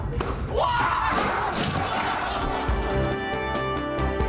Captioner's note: screaming